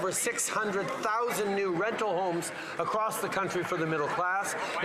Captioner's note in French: voix de l'interprète